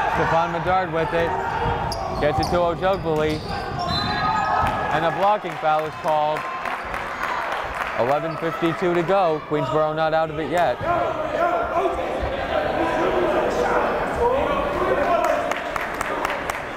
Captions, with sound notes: Stephon Medard with it, gets it to Ojugbele, and a blocking foul was called, 11:52 to go. Queensborough not out of it yet. (yelling)